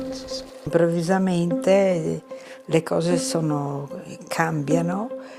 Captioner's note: speaking in foreign language